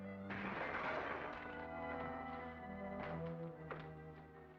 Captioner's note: glass shattering